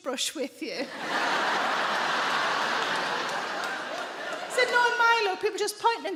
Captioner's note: audience laughing